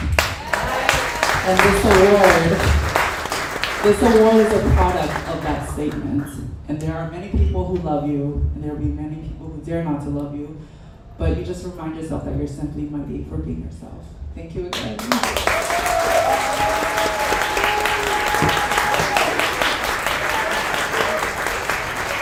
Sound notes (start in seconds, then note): 0.0 audience applauds; 14.9 audience applauds